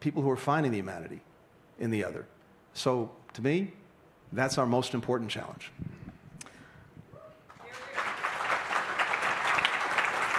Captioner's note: applause